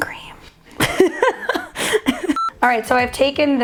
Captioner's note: laughs